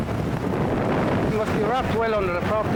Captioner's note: waves crashing